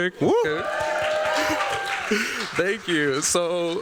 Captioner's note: cheers, applause